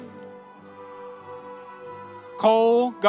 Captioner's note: audience cheering